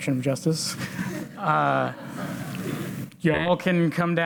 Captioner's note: audience laughs